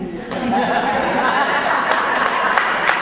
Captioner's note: audience laughter and applause